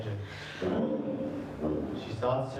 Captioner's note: engine revs